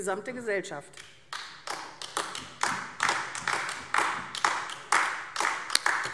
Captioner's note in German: Beifall AfD